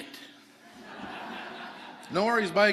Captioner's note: audience laughing